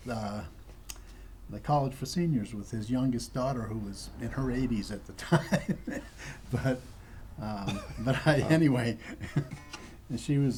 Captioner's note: laughter